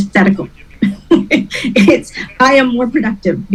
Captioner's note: laughs